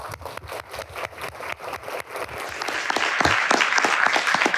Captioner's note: applause